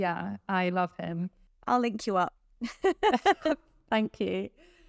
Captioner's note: chuckles